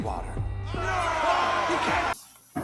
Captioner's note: angry chattering